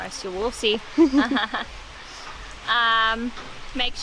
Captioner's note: laughs